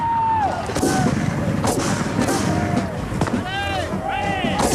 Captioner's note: yelling; guns bang